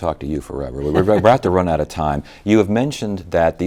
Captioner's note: laughs